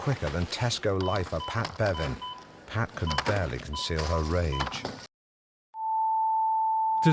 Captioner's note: beep